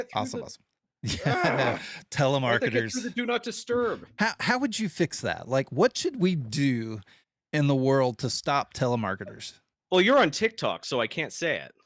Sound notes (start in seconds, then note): 1.0 laughing